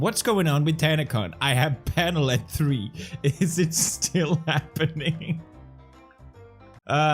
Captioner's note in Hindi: फेलिक्स हंसी में टूट जाती है